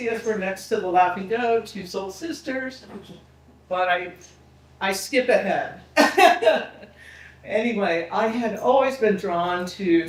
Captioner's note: laughing